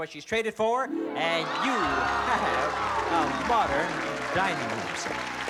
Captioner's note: cheering